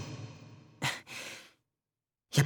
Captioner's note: silence